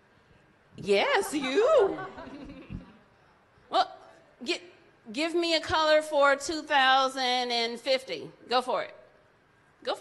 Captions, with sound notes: Yes, you. (audience laughs) What--give me a color for 2050. Go for it.